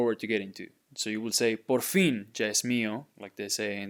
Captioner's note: speaking in Spanish